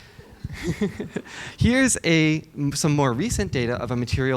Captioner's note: laughs